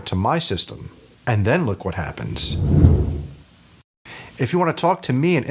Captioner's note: whooshing